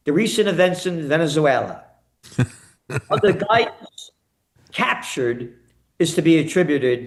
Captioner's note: laughing